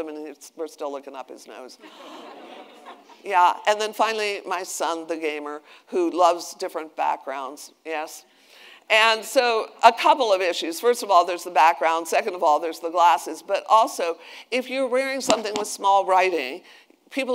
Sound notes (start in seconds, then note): 1.8 attendees laughing